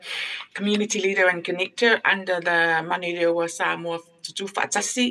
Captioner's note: speaking in foreign language